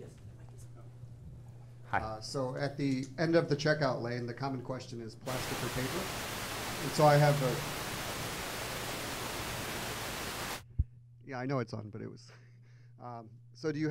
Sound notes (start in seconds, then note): 7.9 static noise buzzing